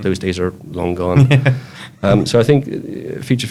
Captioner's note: laughs